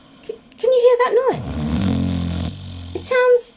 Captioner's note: loud snoring